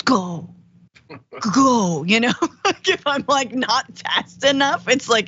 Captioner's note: laugh